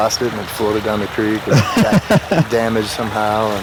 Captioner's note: man laughing